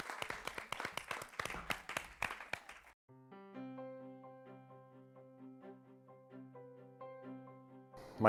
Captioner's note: �cheering and applause�